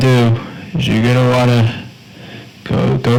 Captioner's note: sniffles